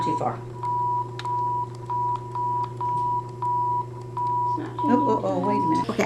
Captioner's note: electronic tones